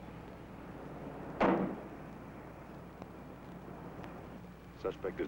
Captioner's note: truck door thuds